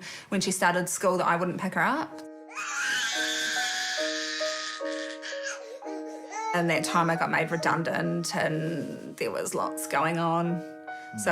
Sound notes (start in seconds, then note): 2.6 screams